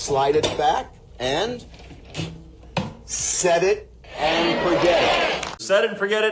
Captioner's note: audience joins in